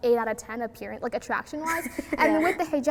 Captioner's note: laughs